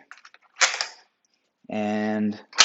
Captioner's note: rack snaps